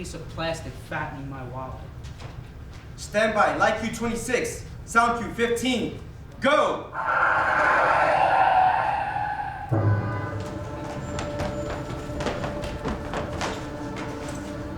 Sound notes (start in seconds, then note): 7.0 tires skidding; 10.1 traffic sounds